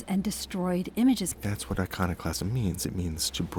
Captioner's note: voiceover